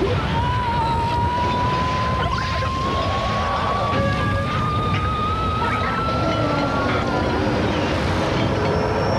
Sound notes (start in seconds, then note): 0.0 screaming; 4.6 high pitched screaming